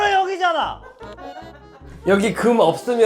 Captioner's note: TL: sniff sniff sobs